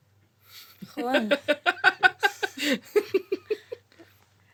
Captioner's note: laughs